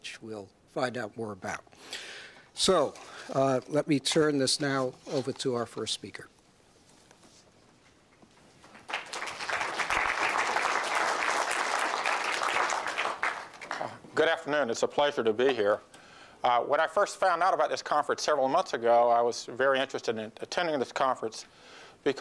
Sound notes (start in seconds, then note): 8.7 applause